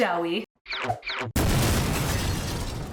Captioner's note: explosions